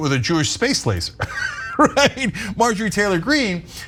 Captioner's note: laugh